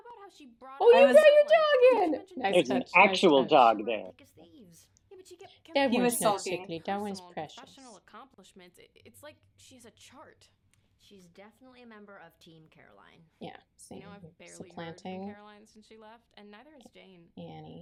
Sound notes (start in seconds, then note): 0.8 delighted squeals; 5.0 baby voice